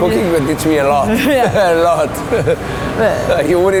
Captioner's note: laughing